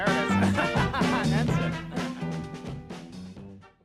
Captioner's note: laughs